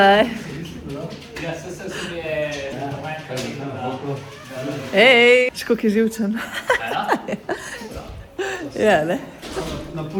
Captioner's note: laughs